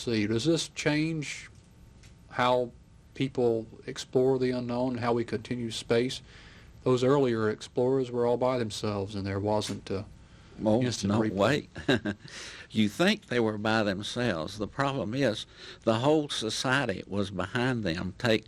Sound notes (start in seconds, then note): 11.7 chuckles